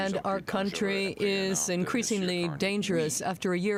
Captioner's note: speaking French